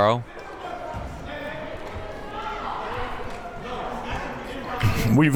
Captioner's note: crowd members talking